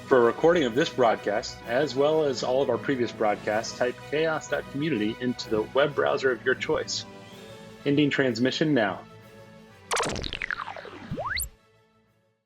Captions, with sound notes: For recording of this broadcast, as well as all of our previous broadcasts, type chaos.community into the web browser of your choice. Ending transmission now. (cinematic action music) (digital beeping)